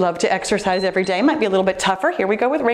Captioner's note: timer beeps